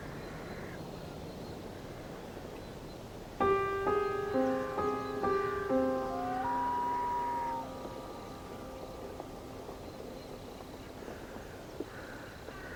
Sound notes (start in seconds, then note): 4.1 tense music; 4.9 owl calling